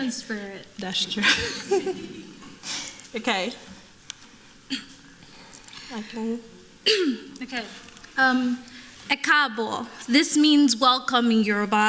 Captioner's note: laughter; speaking yoruba